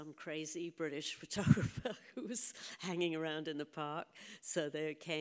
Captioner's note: chuckles